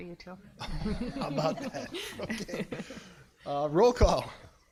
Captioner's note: everybody laughing